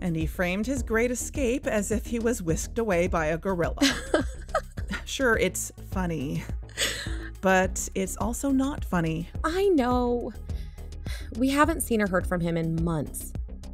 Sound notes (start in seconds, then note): 3.8 giggles